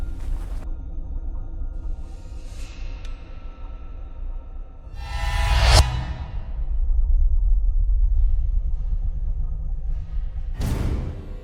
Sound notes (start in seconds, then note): 5.1 startling tone